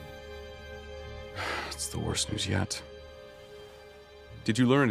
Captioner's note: sigh